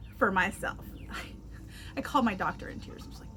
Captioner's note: sighs